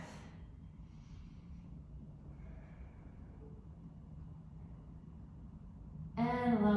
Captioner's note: deep breath